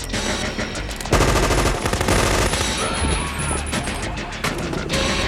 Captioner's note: machine guns firing